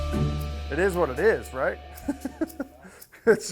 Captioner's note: chuckling